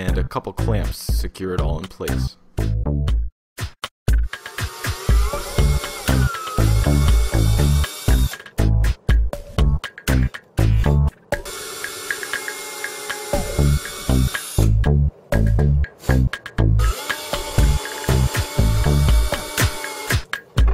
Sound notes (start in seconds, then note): 4.3 drill noise